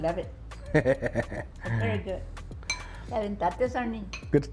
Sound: cook chuckles

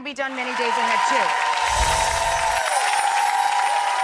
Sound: cheering

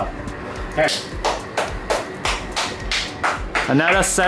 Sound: happy applause

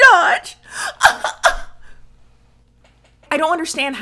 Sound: sobs

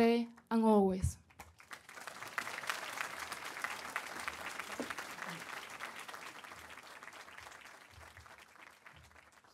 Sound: applause

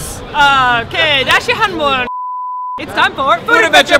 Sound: beep

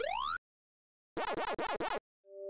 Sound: Pac-Man Ghost Eaten Sound Effect; Pac-Man Waka Waka Sound Effect

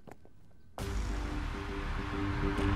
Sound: footsteps; mouthing

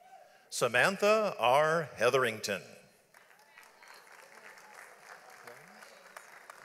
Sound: audience applauds

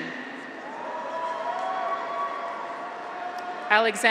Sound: graduates cheer

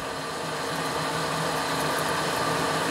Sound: whirring

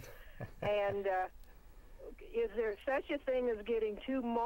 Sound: laughing

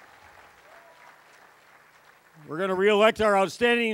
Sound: cheering, applause

